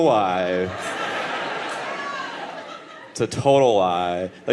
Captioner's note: audience laughing